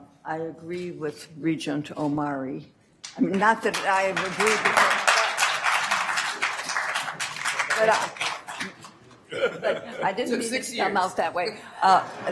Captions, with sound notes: I agree with Regent Omari. Not that I never do but-- (attendees applauding) I didn't mean it to come out that way.